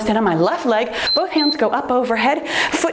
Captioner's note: timer beeps